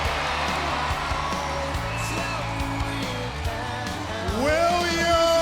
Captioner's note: crowd cheering